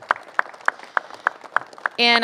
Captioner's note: applause